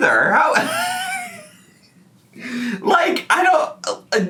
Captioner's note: laughs